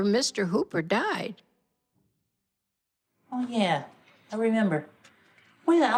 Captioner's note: soundbite of tv show, "sesame street"